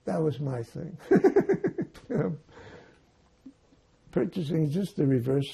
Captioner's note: laughing